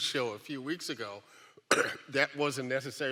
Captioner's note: coughs